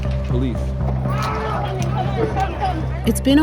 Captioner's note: people shouting